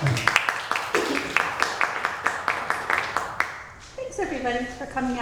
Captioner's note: audience applauds